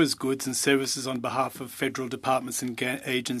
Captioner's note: speaking French